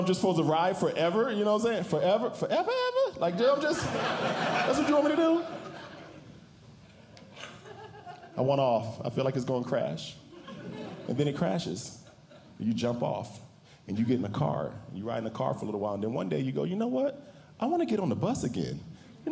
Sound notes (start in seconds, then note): 3.5 audience Laughing